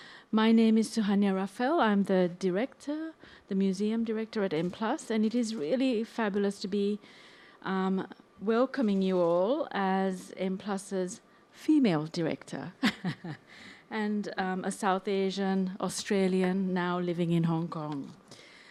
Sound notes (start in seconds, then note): 12.8 chuckles